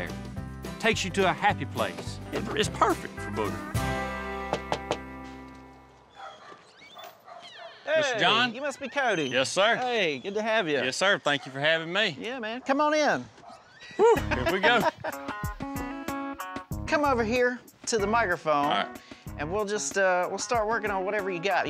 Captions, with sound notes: TAKES YOU TO A HAPPY PLACE. IT'S PERFECT FOR BOOGER. [KNOCKING] HEY! MR. JOHN? YOU MUST BE CODY. YES SIR. HEY, GOOD TO HAVE YOU. YES SIR. THANK YOU FOR HAVING ME. YEAH MAN, COME ON IN. WHEW, HERE WE GO. COME OVER HERE TO THE MICROPHONE. AND WE'LL JUST START WORKING ON WHATEVER YOU GOT.